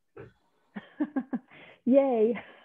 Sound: laughs

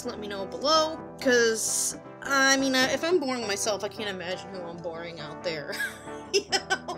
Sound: laughing

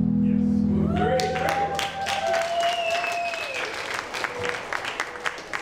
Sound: cheering and applauding

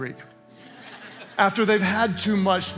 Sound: congregation laughing

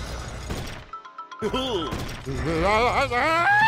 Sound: chuckles; screams

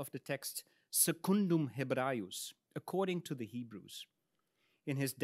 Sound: speaks in Latin

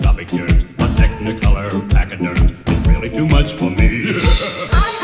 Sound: ha ha ha ha ha

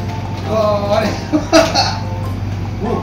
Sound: laughs

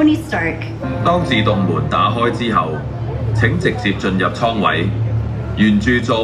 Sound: speaks foreign language

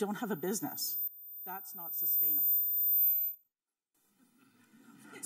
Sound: high pitched sound

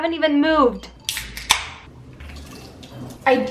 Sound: top popping

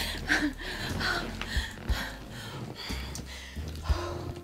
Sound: Mary breathes heavy

